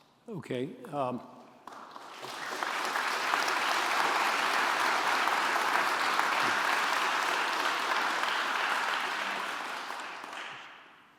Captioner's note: applause